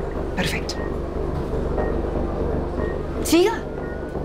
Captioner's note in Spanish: Pitidos